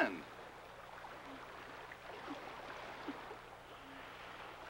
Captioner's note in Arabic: حفيف الماء